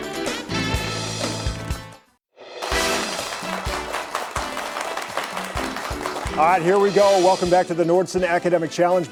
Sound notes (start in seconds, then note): 2.6 audience clapping